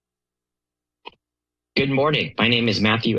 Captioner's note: silence